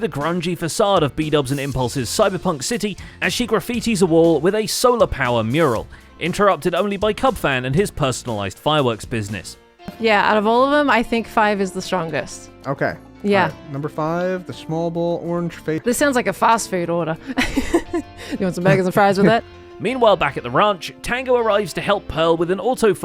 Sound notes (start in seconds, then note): 17.3 laughs